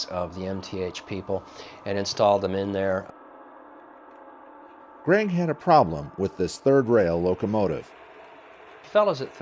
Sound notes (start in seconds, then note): 4.9 voiceover